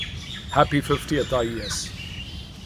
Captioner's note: bird sounds